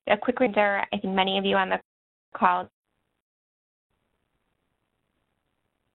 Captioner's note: audio cuts out